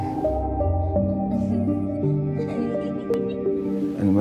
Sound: somber music playing; child laughing

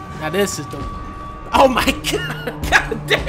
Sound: laughing

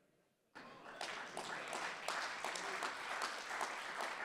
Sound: audience applauding

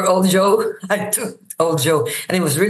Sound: laughs

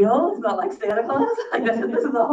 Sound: laughs

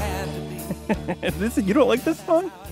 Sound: laughs

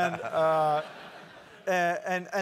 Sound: laugh

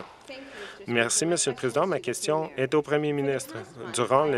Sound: some Applause

